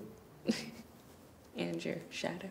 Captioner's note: laughing